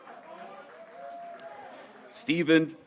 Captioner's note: graduates cheering